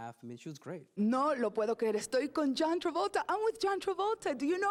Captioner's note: speaking Spanish